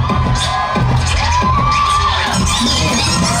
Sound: crowd cheering

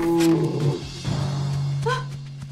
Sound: rhino growls

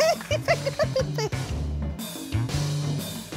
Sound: laughs

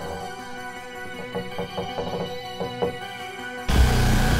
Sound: stairs creak; dramatic tense music

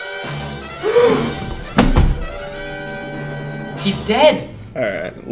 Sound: dramatic music; gasping

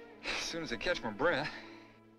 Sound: exhales

